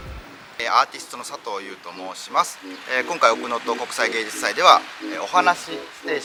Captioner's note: speaks foreign language